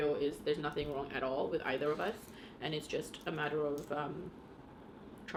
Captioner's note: none